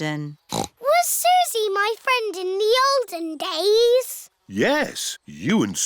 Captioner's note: snorts